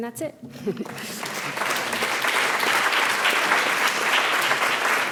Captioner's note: audience applauds